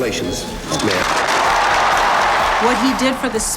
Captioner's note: crowd cheering